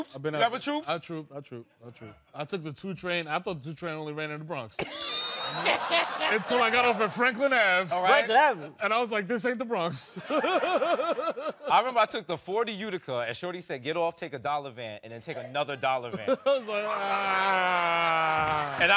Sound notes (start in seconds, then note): 4.8 laughing; 10.2 laughing